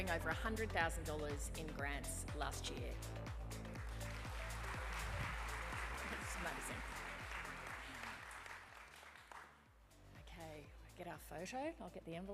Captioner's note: applause